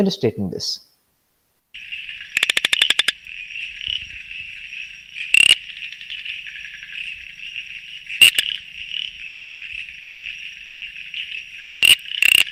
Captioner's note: Audio of P. amboli vocalizations